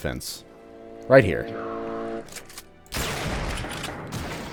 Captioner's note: bam